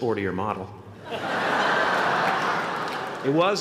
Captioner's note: laughter